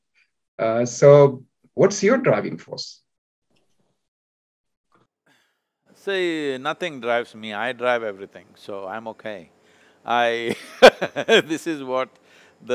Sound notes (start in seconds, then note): 10.4 laughs